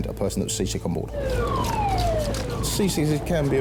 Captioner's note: siren blaring; equipment rattling